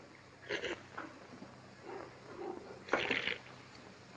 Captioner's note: noisy slurping